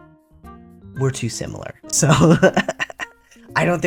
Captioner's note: laugh